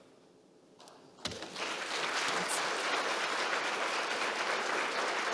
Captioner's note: audience clapping